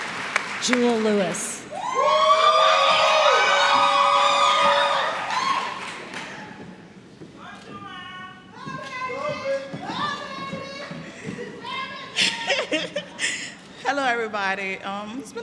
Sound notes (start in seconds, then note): 1.6 cheering